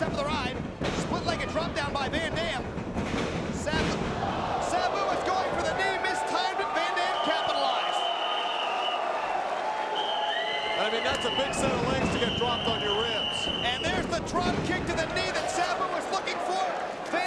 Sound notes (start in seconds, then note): 3.4 mat thumping; 3.9 crowd gasping; 9.8 whistle blowing; 10.0 audience applauding; 13.1 whistle blowing